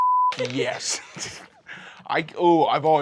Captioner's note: rolls dice